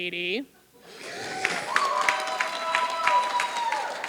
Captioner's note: applause